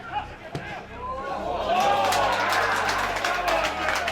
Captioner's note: crowd cheers